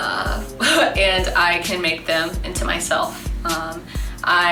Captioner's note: laughs